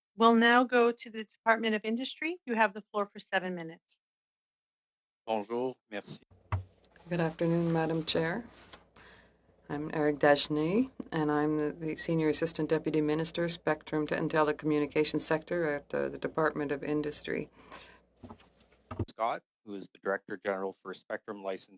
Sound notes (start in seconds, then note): 9.9 speaking French